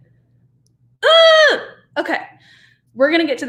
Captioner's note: yelp